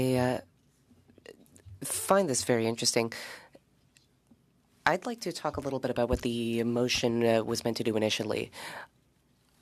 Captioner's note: speaking French